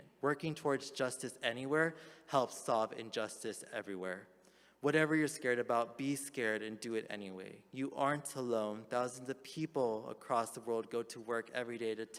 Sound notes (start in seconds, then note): none